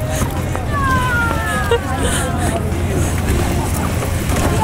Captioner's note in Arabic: الموسيقى تتلاشى; ضحك عاطفي